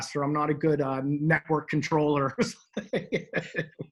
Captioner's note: laughs